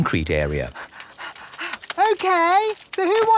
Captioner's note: panting